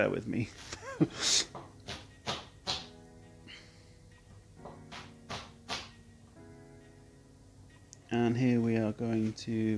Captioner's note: laughs nervously